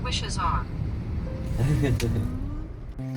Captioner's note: chuckle